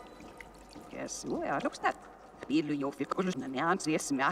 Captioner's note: talking backwards